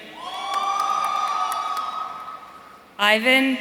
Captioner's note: audience cheering